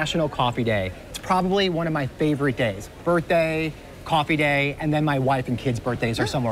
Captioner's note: laughs